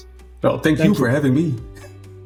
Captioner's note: laughs